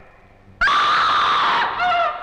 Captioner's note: scream